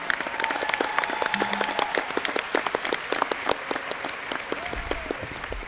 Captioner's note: crowd cheering and applauding